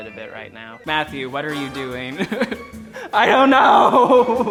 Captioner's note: laughs